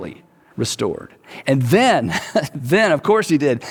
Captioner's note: chuckles